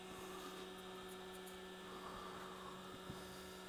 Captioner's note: machine hums